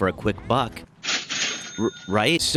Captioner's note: cha-ching